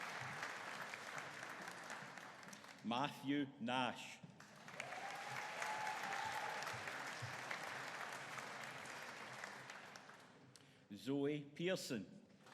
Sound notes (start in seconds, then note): 4.7 audience cheering